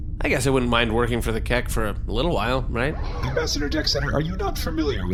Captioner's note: whirring sound